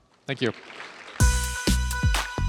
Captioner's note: applause